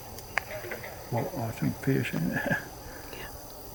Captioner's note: chuckles